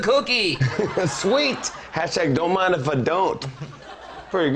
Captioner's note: laughs